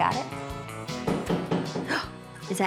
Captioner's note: knock on door